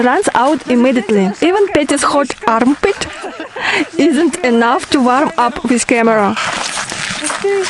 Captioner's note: laugh